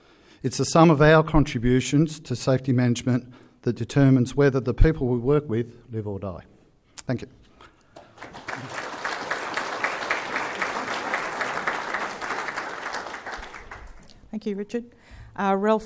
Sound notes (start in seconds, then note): 7.9 applause